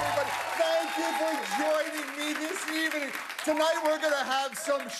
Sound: cheers and applause

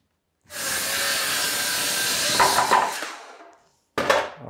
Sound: saw buzzing

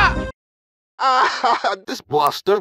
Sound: rage sound; laughing

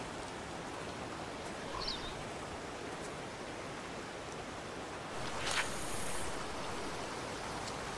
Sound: running water

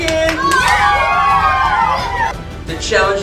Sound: kids wildly cheering

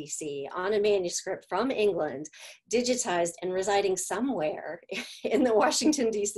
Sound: laughter

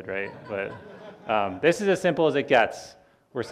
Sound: audience laughing

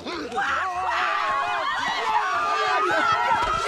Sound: tourists screaming

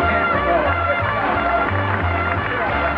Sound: audience laughs; audience applause

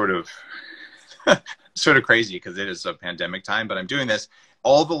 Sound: laughs

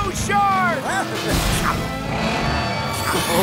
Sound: giggling

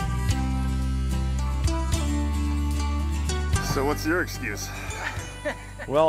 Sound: laughing

